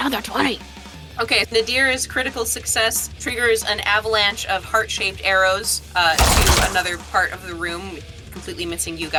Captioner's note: explosion